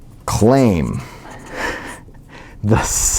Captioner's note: laugh